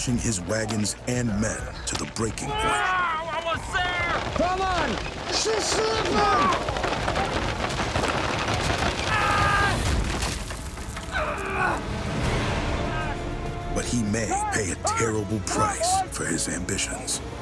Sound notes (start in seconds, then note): 10.1 wagon rolls over man; 11.1 man groaning